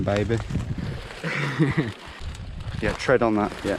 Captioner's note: chuckling